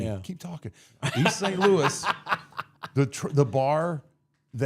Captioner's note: people laughing